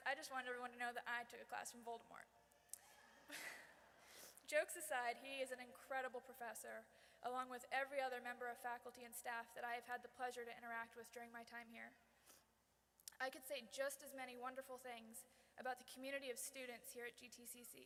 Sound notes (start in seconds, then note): 3.2 audience laughs